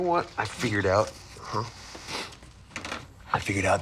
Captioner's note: sniffles